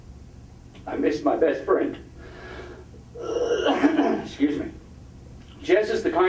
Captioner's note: coughing